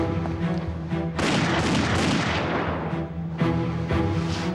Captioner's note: gun fires rapidly